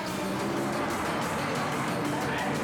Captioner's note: traffic whirring; dramatic music continues